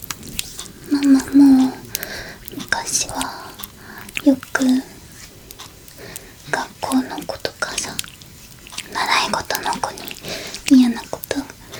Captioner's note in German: Haha